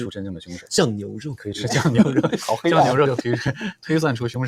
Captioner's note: laughs